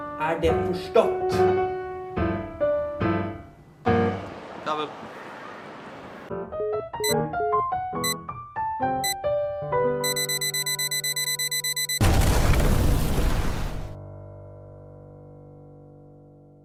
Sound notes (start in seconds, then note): 6.5 sound of the phone hanging up; 10.0 beeping intensifies; 12.0 explosion sound